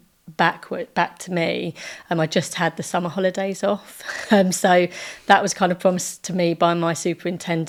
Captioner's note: laughing